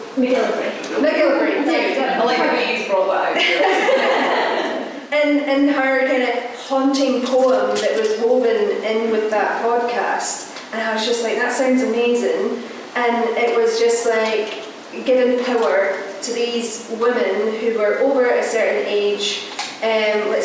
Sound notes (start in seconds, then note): 3.3 laughter